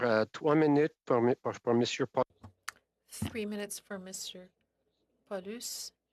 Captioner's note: speaking French